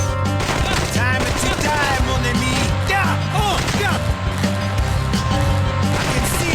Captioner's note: yelling